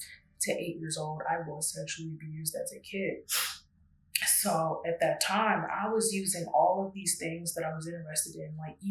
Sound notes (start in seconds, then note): 3.3 sniffs